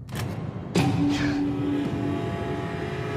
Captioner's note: gasps